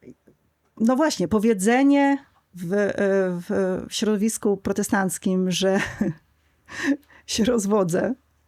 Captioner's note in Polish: śmiech